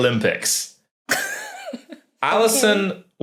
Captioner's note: giggles